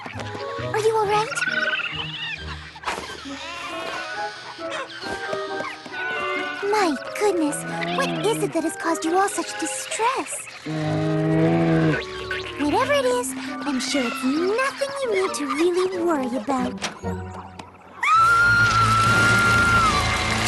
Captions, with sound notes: Are you all right? (chittering) (bleating sheep) My goodness, what is it that has caused you all such distress? (groaning growl) Whatever it is, I'm sure it's nothing you need to really worry about. (door opens) (shrill scream)